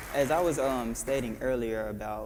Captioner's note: applause